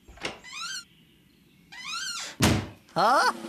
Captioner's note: door Squeaks & Shuts